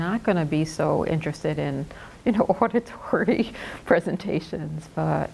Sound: laughs

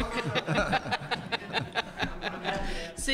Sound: laughter

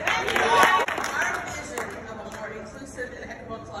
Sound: applause

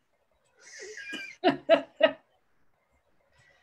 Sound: chuckles

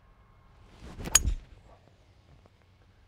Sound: ping!

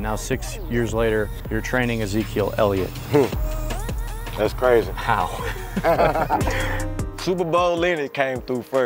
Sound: laughter

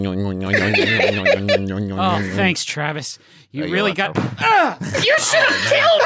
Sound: laughing; thud

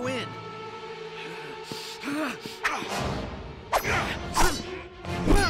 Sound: panting

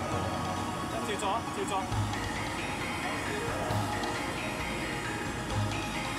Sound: chef speaking in foreign language

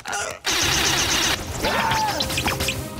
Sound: screaming

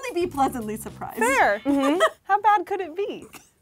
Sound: giggling

